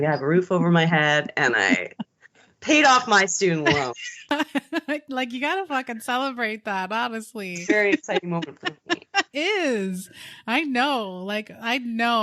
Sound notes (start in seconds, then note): 3.6 both laughing